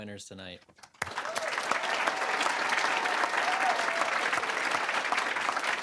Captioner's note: applause, cheering; applause